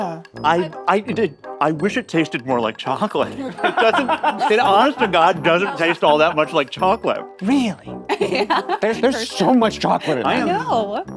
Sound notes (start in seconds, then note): 3.3 all laughing; 7.7 laughing